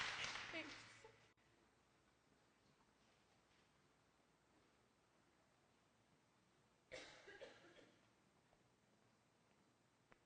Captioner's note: applause; silence